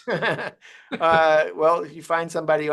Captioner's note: laughs